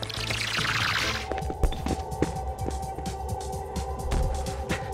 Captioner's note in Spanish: pasos